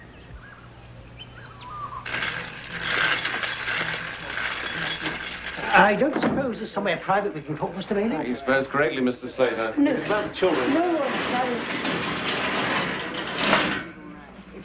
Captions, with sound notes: (mixer whirring) I don't suppose there's somewhere private we can talk, Mr. Bailey? - You suppose correctly, Mr. Slater. If it's about the children-- - No, no, it's fine. (lift rattling)